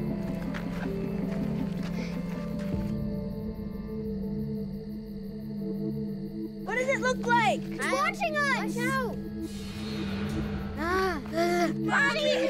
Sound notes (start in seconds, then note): 10.8 sigh